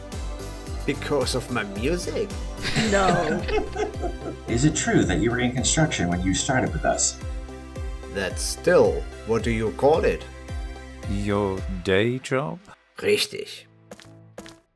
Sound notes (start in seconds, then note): 2.6 laughter